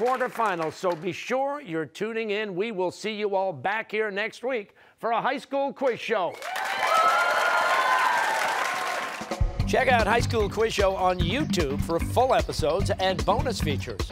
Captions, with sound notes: the quarterfinals, so be sure you're tuning in. We will see you all back here next week for a High School Quiz Show. (cheers and applause) >> Check out High School Quiz Show on YouTube for full episodes and bonus features.